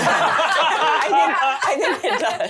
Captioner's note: laughing